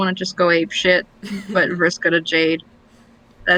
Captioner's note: laughs